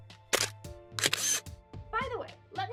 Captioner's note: camera sound; more camera noises